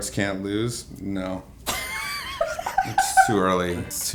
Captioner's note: laughs